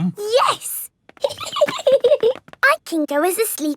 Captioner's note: giggling